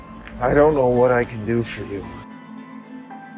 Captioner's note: voiceover